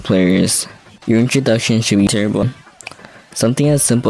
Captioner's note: click